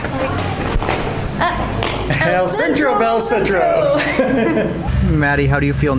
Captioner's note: laughs